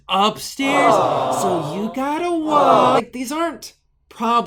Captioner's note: crowd